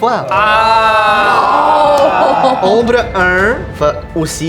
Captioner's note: collective disappointment